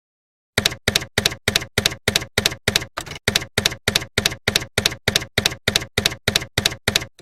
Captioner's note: typewriter keys clacking